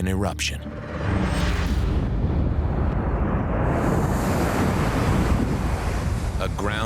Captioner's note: explosion rumbling